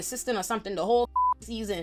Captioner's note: beep